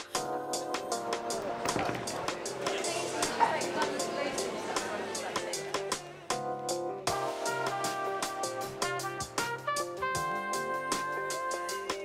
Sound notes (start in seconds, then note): 2.7 people chattering